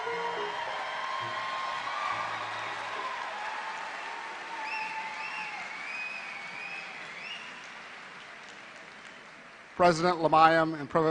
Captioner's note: applause